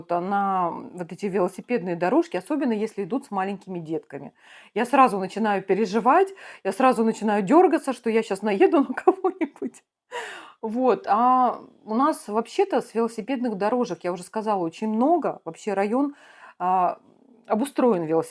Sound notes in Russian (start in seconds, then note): 9.8 смех; 10.2 тяжело вздыхает